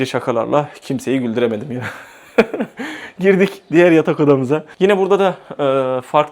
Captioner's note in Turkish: kahkaha